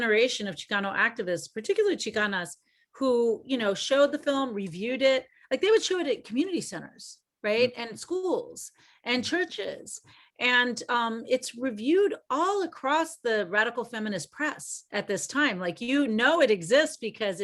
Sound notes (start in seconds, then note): none